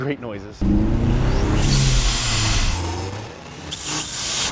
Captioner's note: engine revs